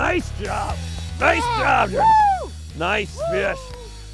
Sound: everyone cheers and hoots

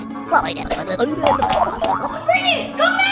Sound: sisters gasping; gibbering

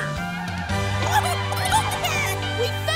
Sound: cackling

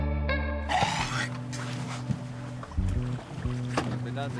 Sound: vomiting

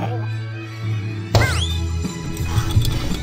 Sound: snaps; rattles

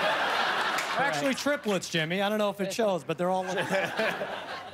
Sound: laughter and applause

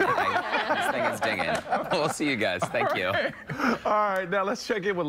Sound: laughter; laughter

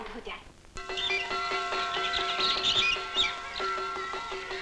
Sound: school bell rings

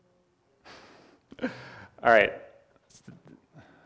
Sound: laughs

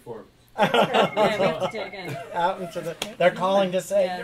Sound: laughter; phone ringing

